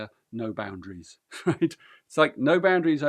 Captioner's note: laughs